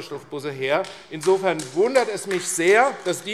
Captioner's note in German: Beifall AfD